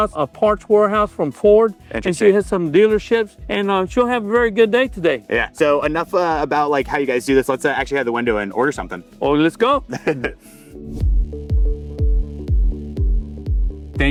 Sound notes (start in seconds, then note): 9.8 laughs; 11.1 light music